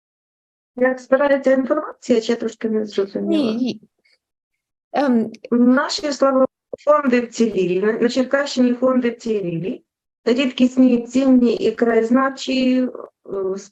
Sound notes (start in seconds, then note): 1.2 foreign Language Spoken